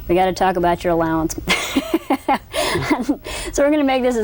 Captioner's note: laughter